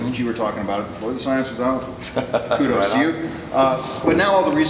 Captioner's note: chuckles